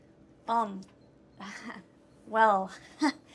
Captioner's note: chuckles